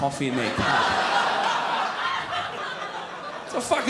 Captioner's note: crowd laughs